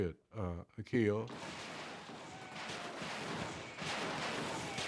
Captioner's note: rapid artillery fire